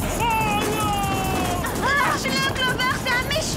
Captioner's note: screaming